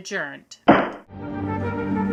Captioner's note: gavel bangs